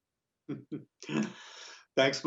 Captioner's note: laughing